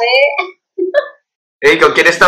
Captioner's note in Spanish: se ríe